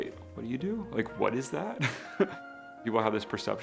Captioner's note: laughs